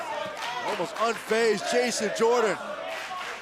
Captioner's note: crowd cheering